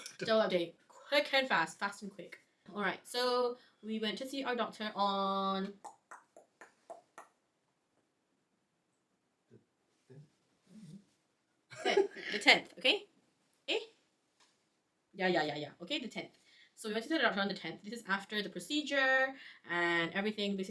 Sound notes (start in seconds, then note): 5.8 clicks tongue; 11.8 chuckles